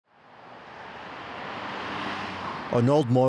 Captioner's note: car engines revving